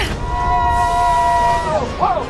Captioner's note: yelling